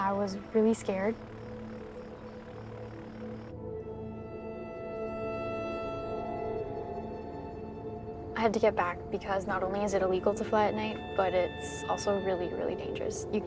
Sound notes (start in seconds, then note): 1.8 airplane rumbles